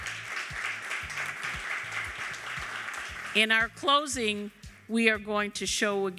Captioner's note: applause